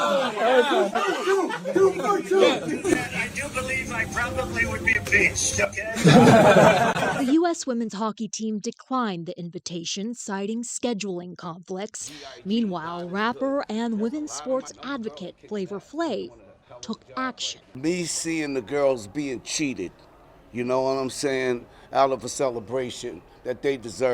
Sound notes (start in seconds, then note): 5.9 laughter